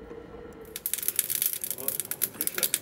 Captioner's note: crackling, quiet conversations